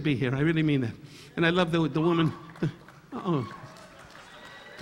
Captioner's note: audience members applauding; audience member exclaiming